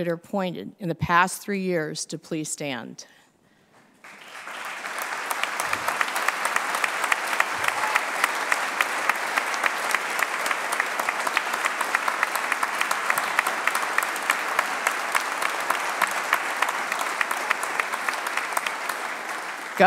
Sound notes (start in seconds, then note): 4.0 applause